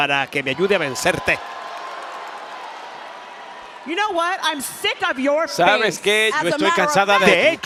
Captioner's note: applause